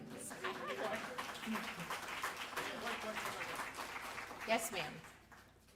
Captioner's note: applause